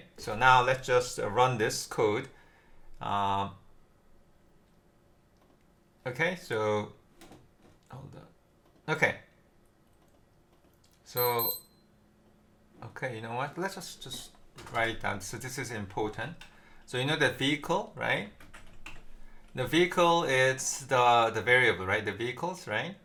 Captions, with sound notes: So now, let's just run this code. Okay, so hold on, okay. So [beeping], okay, you know what? Let's just write that, so this is important. So you know that vehicle, right? Know vehicle, it's the variable, right, the vehicles, right?